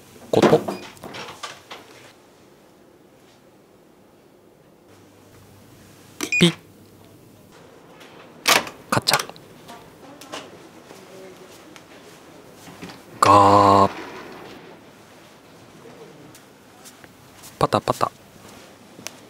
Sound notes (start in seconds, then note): 6.2 electrical beep; 8.1 sound of opening lock and handles; 12.6 door opening; 17.5 pitter pattering